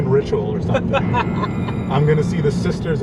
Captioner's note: laughs